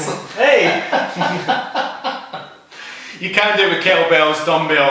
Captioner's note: laughing